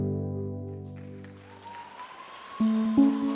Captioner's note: audience cheering and applauding; bright music